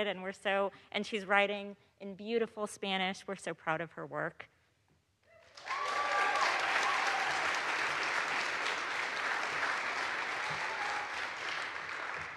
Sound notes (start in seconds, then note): 5.5 audience applauds; 5.5 audience cheers